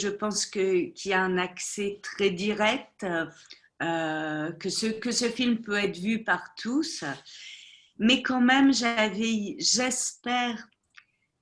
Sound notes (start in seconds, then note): 4.4 speaking French